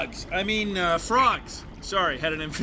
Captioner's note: voice cracking; normal voice